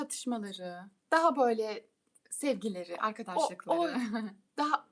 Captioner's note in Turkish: kahkaha